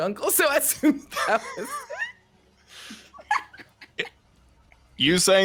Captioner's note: people laughing